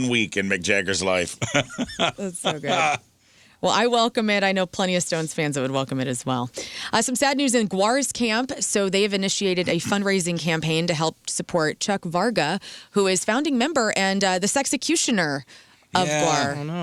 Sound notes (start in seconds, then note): 1.4 laughing